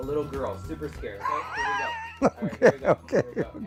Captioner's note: chuckles